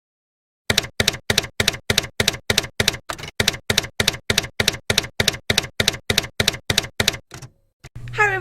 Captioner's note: typewriter keys clacking